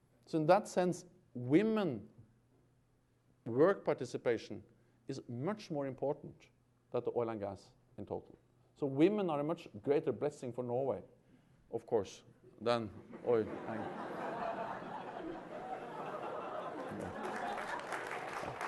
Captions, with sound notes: So in that sense, women work participation is much more important than the oil and gas in total. So women are a much greater blessing for Norway, of course, than oil-- [LAUGHTER] [APPLAUSE]